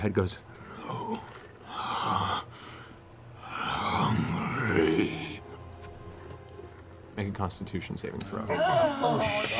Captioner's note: breathes heavily